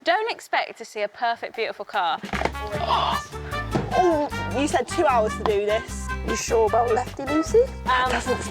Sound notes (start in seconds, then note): 2.6 both gasp